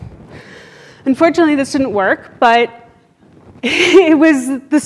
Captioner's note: laughs